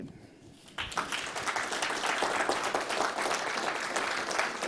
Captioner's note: applause